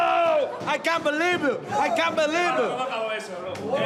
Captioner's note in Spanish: habla en inglés